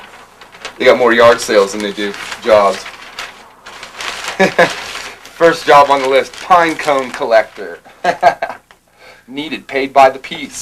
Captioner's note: laughter